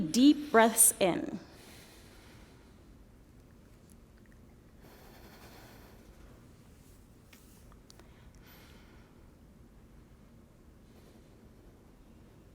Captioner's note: pause